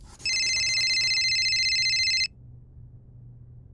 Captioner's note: cell phone ringing